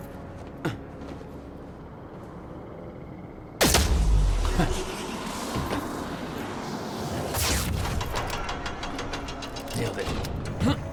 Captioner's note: on the radio